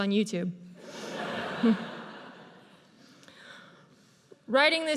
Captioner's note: audience laughs